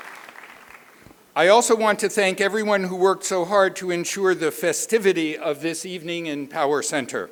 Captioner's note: applause